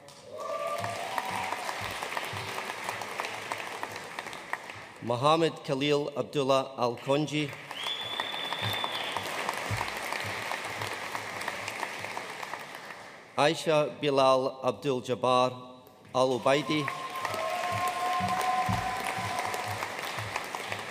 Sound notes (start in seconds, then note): 0.0 audience cheering and applauding; 7.4 audience whistling and applauding; 16.2 audience cheering and applauding